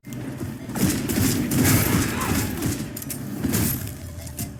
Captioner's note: gunshots booming; vampire screeching; tense electronic music